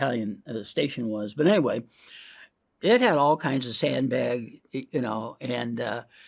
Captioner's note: inhales